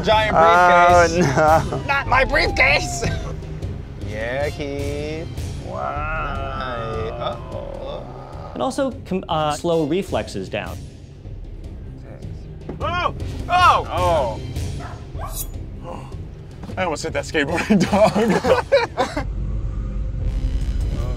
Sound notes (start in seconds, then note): 3.3 intense music; 10.9 dramatic music; 14.7 dog barking; 17.6 laughing